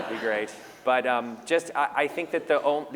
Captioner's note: laughter